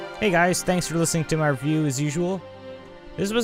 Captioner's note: rambling